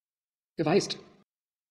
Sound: fast Pronunciation

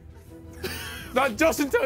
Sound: laughs

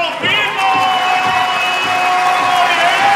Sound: cheers and applause

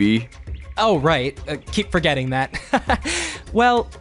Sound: chuckles

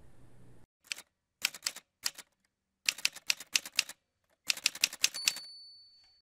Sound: typewriter sounds

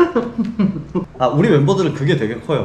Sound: hahaha

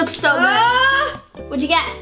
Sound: screams

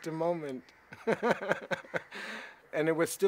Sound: laughs

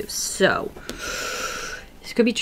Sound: deep inhale

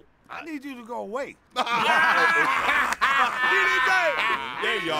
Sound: laughing

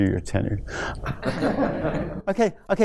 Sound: laughter

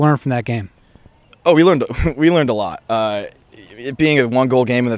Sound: laughs

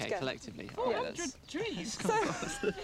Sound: laughing

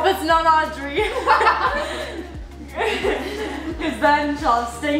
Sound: laughing

